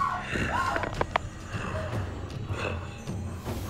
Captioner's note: Martha screaming; mummy snarling